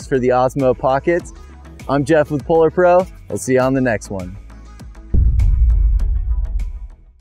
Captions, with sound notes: for the Osmo Pockets. I'm Jeff with PolarPro, I'll see you on the next one. (slow electronic music) (booming)